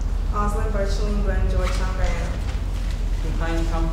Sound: talking

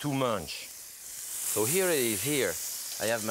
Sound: pan sizzling

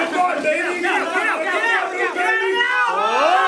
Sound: yelling

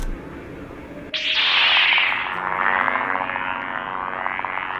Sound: saber ignites, thin humming

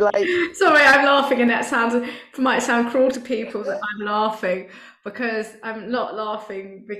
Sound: laughs

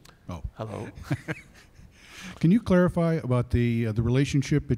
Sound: laughs

